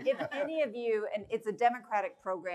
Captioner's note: laughter